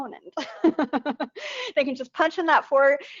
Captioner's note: laughing